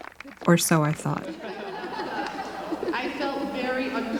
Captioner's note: laughter